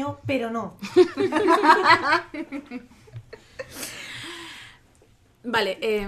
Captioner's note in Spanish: risas